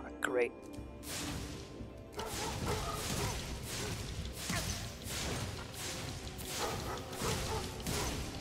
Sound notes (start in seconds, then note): 2.1 dogs bark; 4.3 fire blazes